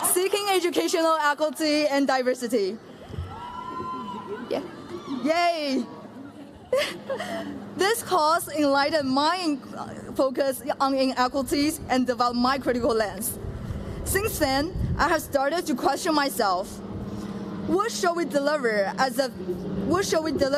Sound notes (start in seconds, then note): 3.1 cheering